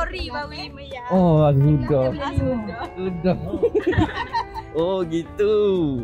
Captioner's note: laugh